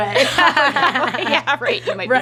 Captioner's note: laughs